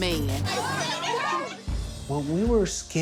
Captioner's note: laughter